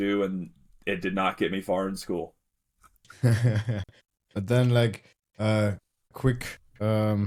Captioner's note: laughs